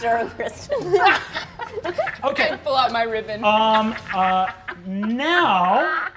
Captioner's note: laughing